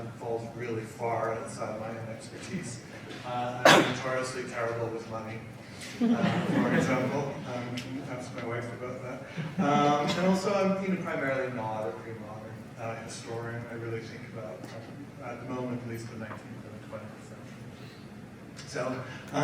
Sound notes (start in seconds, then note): 5.8 audience laughs